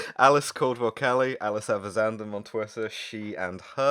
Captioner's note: laughter